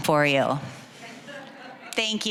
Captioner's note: audience chuckling